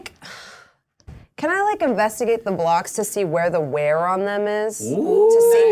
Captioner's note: all Exclaiming